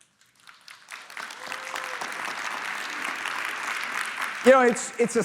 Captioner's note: applause